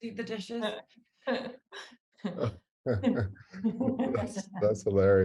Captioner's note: laugh